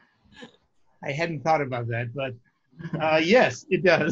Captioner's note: laughs